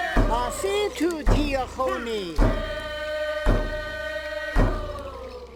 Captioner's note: speaking foreign language